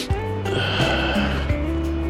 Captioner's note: wind Blowing